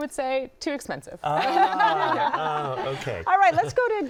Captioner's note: laughter